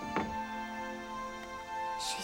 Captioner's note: groans